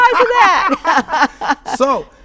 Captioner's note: laughs